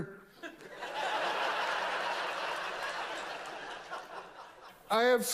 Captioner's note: loud laughs